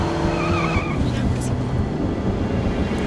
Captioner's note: Alejandra mutters